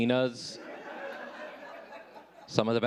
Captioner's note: audience laughing